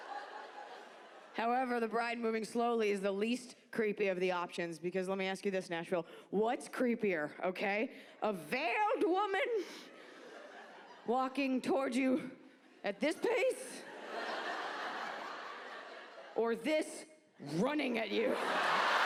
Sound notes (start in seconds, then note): 13.8 audience laugh; 18.1 audience laughs and claps